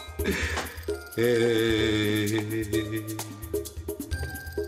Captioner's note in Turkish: Ağlama sesi